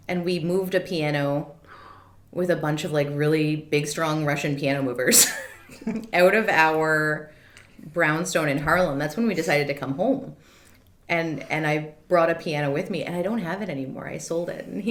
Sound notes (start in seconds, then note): 5.7 laughs